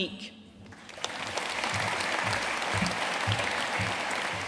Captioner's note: audience applauding